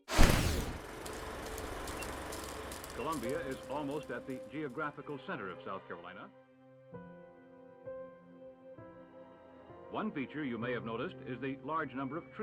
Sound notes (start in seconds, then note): 1.6 beeping